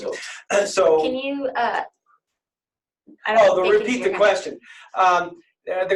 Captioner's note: can you?... Background discussion